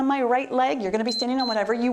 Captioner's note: timer beeps